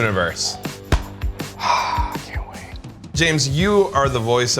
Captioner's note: whispering